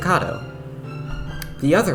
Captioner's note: lip smack for like no reason